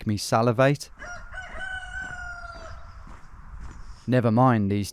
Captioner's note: cockerel crows